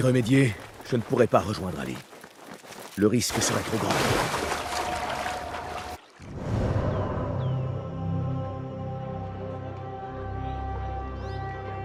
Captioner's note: applause